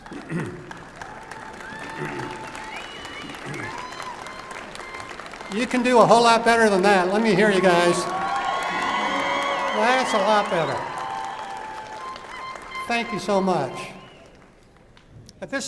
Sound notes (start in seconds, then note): 0.2 applause and cheering; 8.0 louder applause and cheering